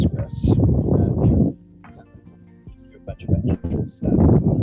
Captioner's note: wind blowing